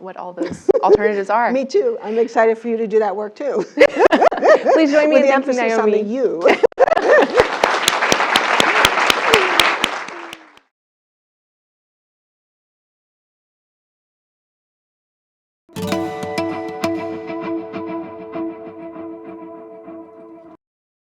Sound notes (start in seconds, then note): 3.8 laugh; 6.4 laugh; 6.9 applause